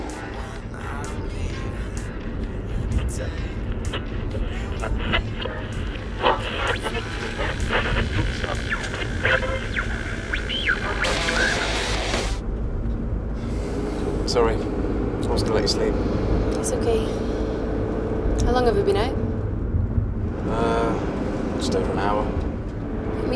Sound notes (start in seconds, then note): 0.3 music on radio; 3.7 radio static; 11.1 heavy metal music